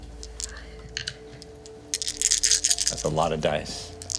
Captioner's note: whispering